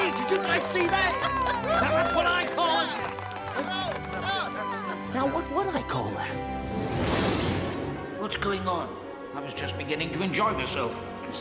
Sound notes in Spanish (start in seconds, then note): 6.8 zumbido